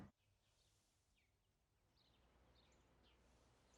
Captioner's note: birds chirping